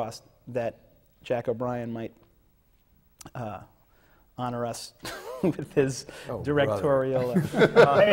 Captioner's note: laughs